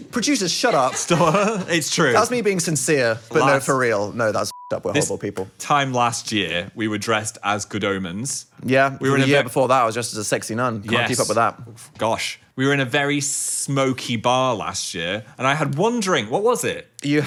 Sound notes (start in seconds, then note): 0.4 producers laughing; 4.4 beep